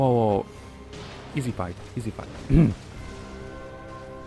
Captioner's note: clears throat